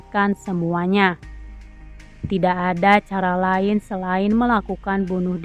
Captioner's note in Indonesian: none